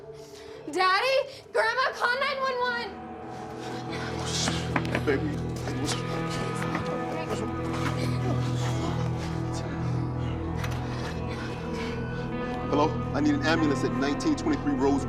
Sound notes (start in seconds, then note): 9.6 Beverly breathing heavily; 9.6 tense music